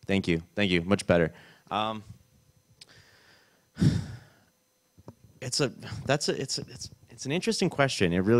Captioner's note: sighs